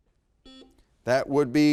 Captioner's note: buzzer beeps